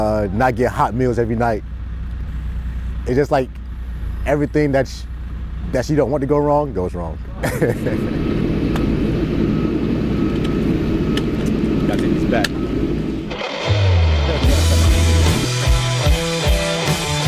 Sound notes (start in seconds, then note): 7.3 laughs; 13.2 intense rock music